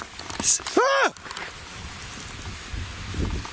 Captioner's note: screams